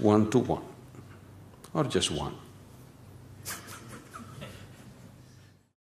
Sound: laughs

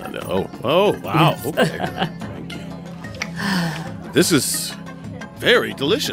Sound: laughs

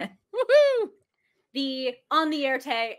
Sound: laughs and cheers

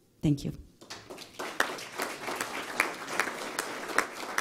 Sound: applause

